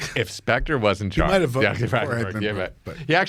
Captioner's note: laughs